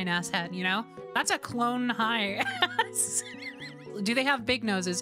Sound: wheeze Laughter

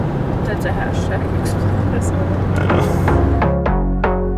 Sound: upbeat music; giggling

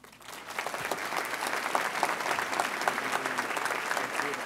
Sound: audience applauds

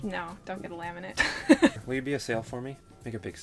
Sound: laughs

